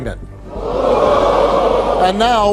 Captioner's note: audience hollers